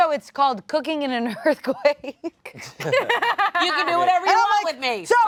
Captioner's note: laughs